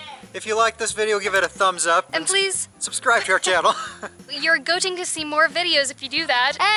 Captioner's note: laughter